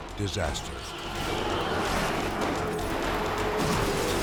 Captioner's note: car crashing